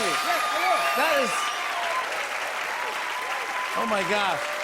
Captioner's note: cheers and applause